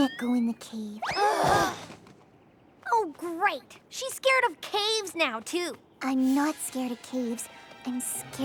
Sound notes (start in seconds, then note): 1.1 all groan